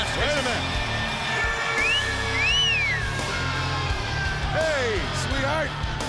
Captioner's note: wolf whistles